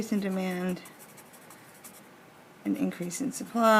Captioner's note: pen scratches